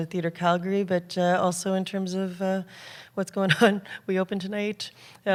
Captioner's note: laughs